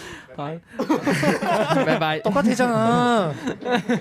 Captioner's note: laughs